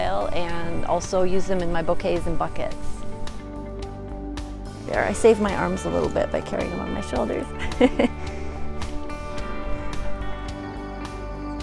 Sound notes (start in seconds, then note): 7.6 chuckle